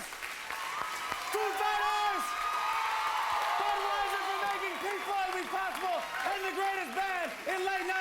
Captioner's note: cheers and applause